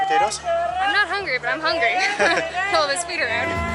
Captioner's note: laughs